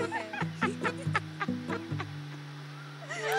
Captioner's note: Laughing